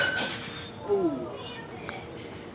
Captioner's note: glass breaks; all exclaiming